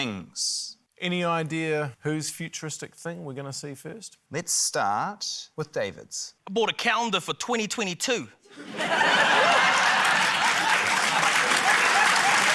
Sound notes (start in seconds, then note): 8.5 laughter, applause